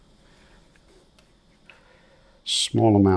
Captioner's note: silence